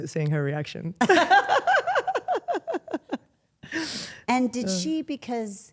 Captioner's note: Stephanie laughing